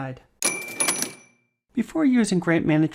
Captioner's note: metallic clunk